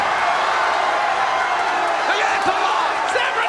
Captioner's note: crowd cheers